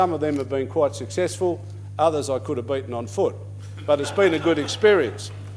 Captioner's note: laughter